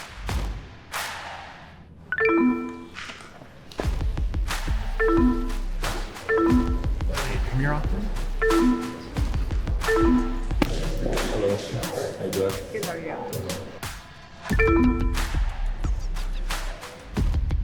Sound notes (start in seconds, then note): 2.4 electronics beep; 9.8 electronics beep; 14.5 electronics beep; 14.8 rhythmic music